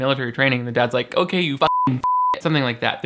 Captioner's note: beep